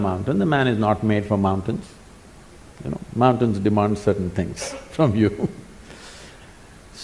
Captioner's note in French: rires